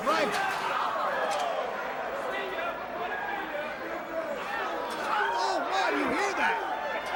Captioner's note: crowd chatter